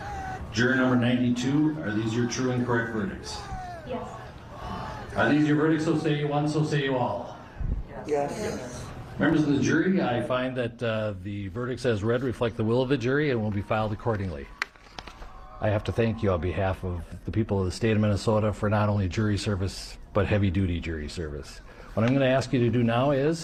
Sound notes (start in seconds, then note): 4.0 crowd chanting; 14.3 distant cheering